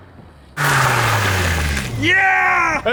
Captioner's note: braking sound